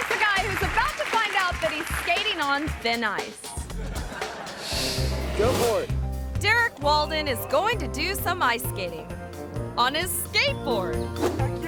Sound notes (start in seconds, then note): 3.5 audience laughs